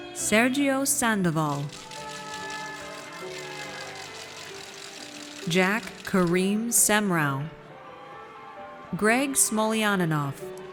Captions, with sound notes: Sergio Sandoval. (audience cheers) Jack Karim Semrau. Greg Smolianinov.